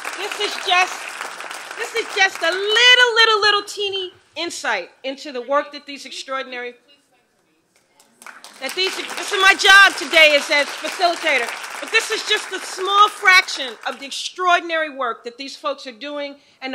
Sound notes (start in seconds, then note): 8.0 applause